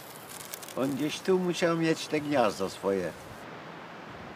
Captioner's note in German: Er spricht ein paar Worte Polnisch